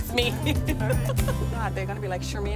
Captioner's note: laughter